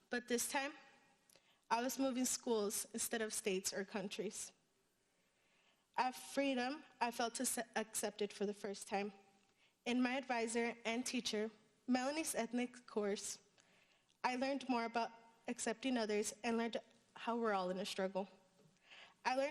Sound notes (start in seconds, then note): none